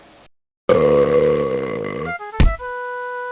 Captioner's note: burps